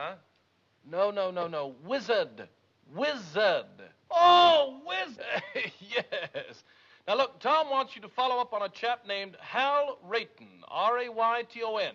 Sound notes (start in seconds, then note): 5.2 chuckling